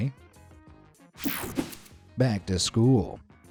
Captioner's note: air whooshing